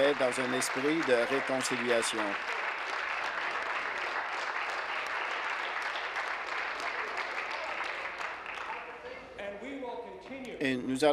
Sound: applause

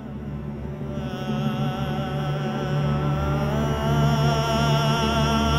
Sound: quavering voice

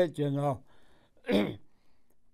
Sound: clears throat

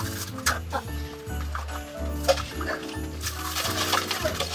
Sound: christmas music; rustling branches

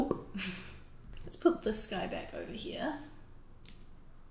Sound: laughter

